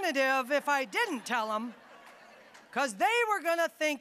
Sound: audience laughing

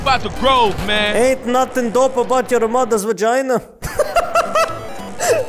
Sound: laughs

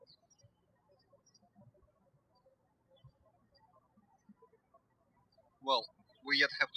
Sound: birds chirping

